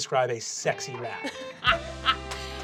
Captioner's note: laughing